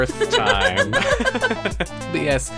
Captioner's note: laughs